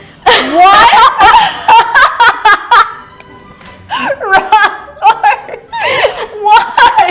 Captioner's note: laughs